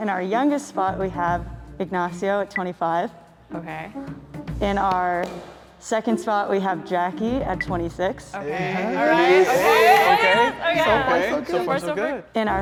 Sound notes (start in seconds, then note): 8.4 group agreeing excitedly